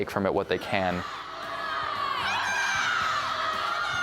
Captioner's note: dancers shouting